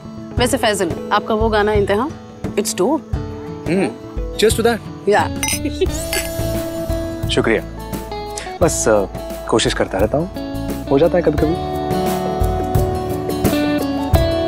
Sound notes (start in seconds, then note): 5.2 glasses clink; 5.4 Cherry laughs